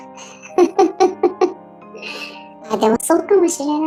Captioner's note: laughs